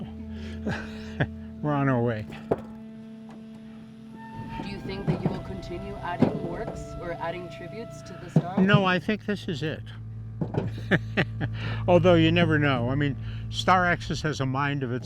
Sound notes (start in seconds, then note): 10.7 laughs